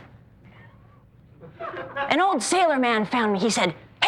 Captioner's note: laughter